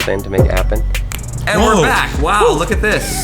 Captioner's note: fingers snapping